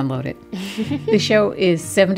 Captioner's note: laughter